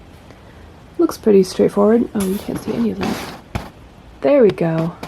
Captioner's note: camera zoom noises